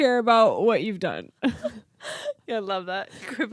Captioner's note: laughing